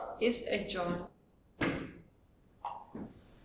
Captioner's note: gavel thuds